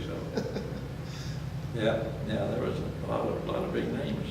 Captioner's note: chuckles